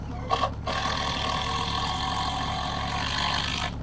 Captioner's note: drill whirring